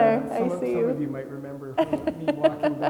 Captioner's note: laughing